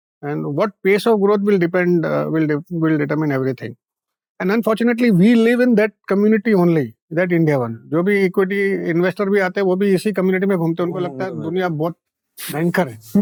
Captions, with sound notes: And at what pace of growth will depend… will determine everything. And unfortunately, we live in that community only. That India 1. [speaking in Hindi]